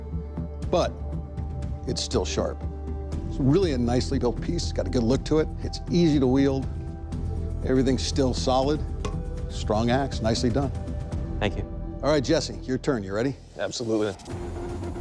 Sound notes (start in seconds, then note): none